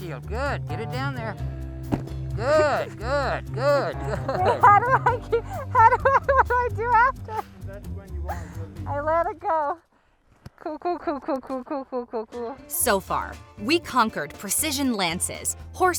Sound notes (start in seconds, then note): 1.9 wood impact; 3.7 laughter; 5.2 giggling; 12.7 rock guitar music